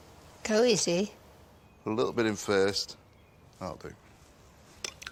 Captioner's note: none